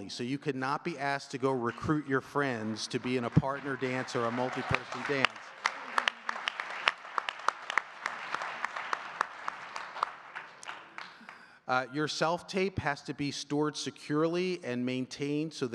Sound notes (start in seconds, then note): 5.6 audience cheering and clapping